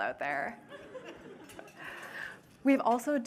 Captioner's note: laughter